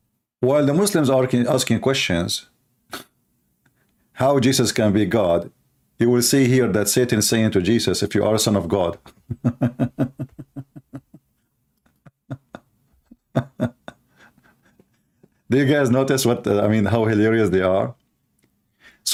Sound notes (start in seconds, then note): 9.0 Ketawa